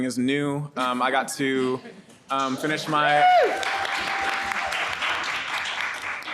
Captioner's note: audience applauds and cheers